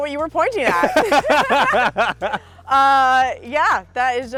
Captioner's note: both laughing